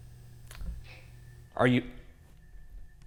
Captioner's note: object clicks